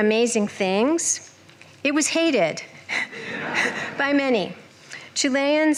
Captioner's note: laughter